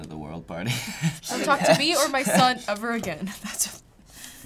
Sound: laughs; in deep voice

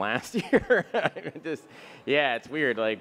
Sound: Bill laughs

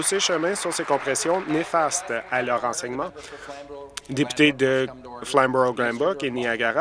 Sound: applause

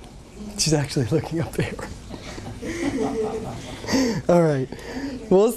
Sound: laughter

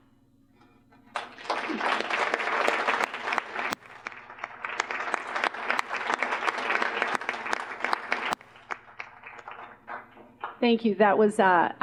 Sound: applause

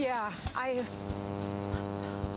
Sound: buzzing

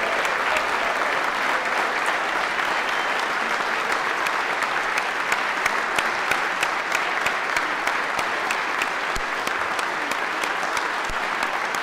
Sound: applause

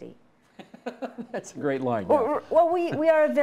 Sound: chuckling

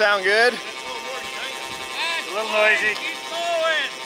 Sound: buzzing

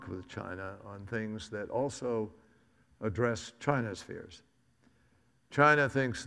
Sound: none

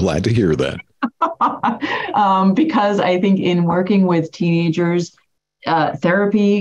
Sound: laughs

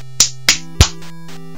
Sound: clap clap clap; clap clap 𝗖𝗟𝗔𝗣

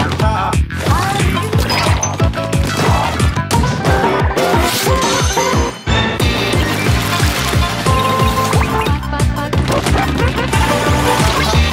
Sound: more weird octo sounds

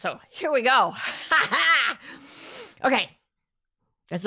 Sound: laughs

